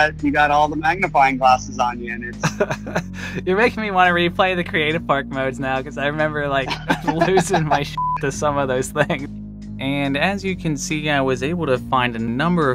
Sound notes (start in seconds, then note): 3.1 laughs